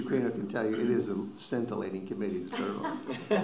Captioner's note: laughter